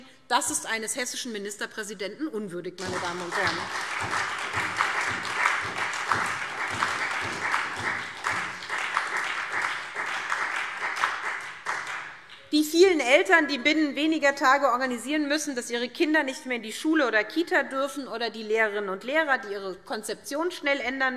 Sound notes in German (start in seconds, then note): 2.8 Beifall SPD, Freie Demokraten und DIE LINKE